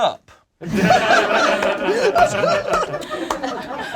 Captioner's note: group laughs